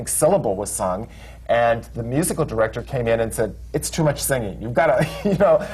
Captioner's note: laughter